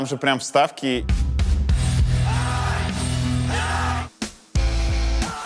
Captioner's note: rhythmic shouts; identical rhythmic shouts